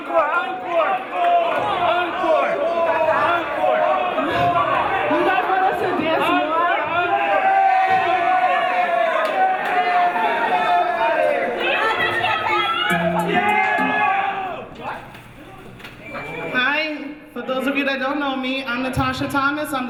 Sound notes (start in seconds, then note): 1.7 audience shouting for encore; 7.8 audience cheering